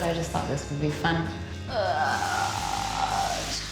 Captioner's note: groans